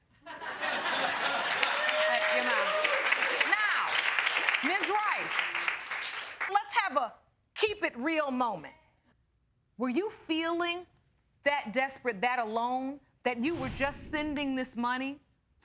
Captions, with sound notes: (AUDIENCE LAUGHING) (AUDIENCE CLAPPING AND CHEERING) That's enough. Now, Ms. Rice, let's have a keep-it-real moment. Were you feeling that desperate, that alone, that you were just sending this money